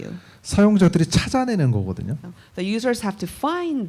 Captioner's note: speaking korean